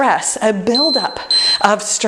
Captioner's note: timer beeping